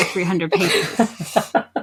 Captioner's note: laugh